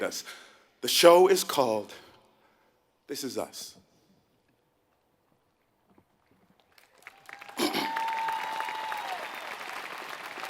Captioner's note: cough; applause